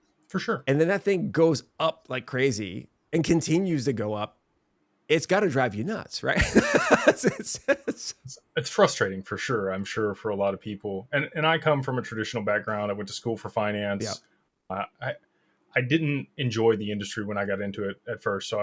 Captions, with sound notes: For sure. And then that thing goes up like crazy and continues to go up. It's gotta drive you nuts, right? (laughs) It's frustrating for sure. I'm sure for a lot of people. And I come from a traditional background. I went to school for finance. I didn't enjoy the industry when I got into it at first.